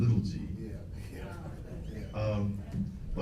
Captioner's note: laughs